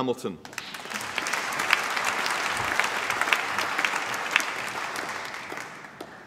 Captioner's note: applause